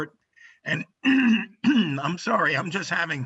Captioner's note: clears throat